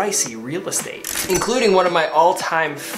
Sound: cash register dinging

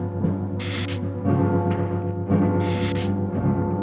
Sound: hissing

